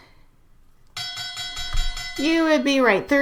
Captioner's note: bell ringing